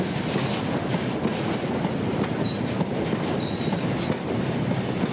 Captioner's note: train passes